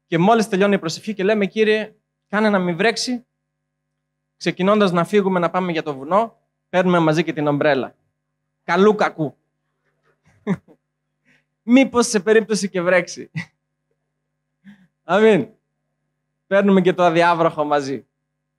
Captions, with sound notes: As soon as the prayer is over, and we set off for the mountain, we also take the umbrella with us. Just in case! [Laughing] Just in case it rains! Amen? We take the raincoat with us too!